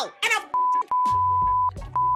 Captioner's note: beep